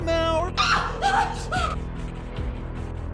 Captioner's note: screams